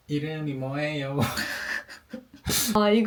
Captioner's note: laughs